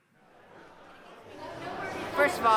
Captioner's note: various crowd dialogues